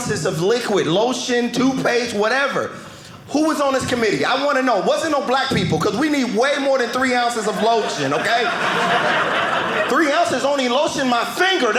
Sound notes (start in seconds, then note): 7.2 audience laughing